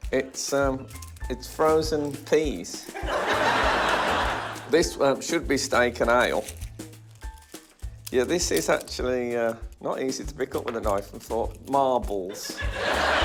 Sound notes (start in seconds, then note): 2.9 laughter